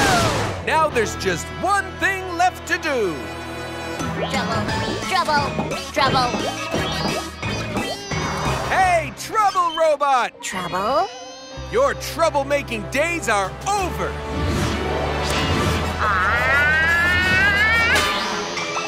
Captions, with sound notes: Now there's just one thing left to do. Trouble trouble trouble! -Hey trouble robot! -Trouble? Your trouble-making days are over. [screaming]